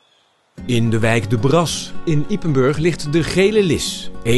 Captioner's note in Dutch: voice-over